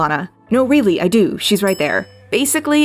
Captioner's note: bell Dings